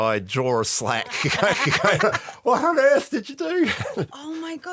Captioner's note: laughter